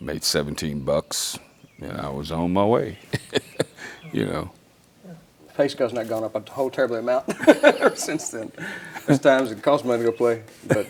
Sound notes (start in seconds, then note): 2.8 laughs; 7.1 laughs